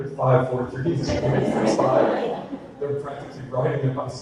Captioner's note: audience laughter